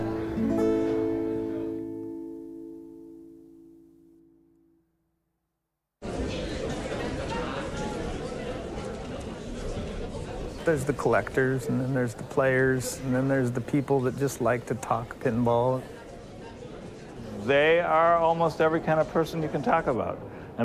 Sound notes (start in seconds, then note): 0.0 song ends; 6.0 crowd murmur